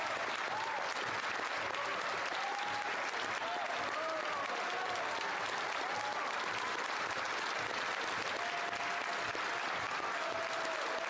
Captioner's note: some Applause